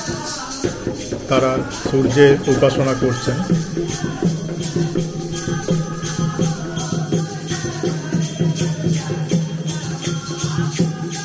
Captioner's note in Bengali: সশব্দ হাসি